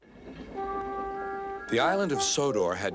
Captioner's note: tooting